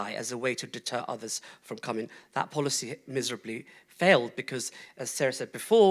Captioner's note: none